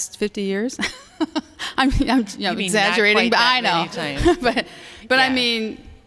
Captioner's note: laughter